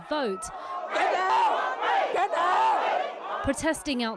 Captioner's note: yelling